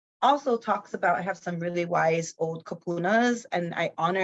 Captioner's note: speaks in foreign language